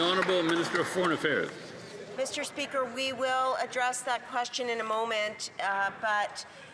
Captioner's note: some Applause